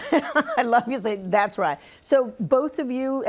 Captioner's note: laughs